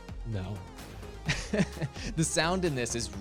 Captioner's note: chuckles